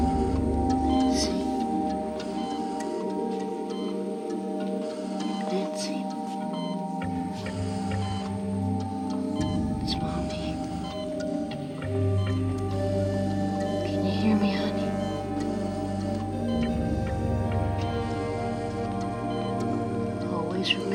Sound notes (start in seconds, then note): 2.4 dramatic music; 2.4 machine beeping; 7.0 dramatic music; 7.0 machine beeping; 11.4 dramatic music; 11.4 machine beeping; 15.7 dramatic music; 15.7 machine beeping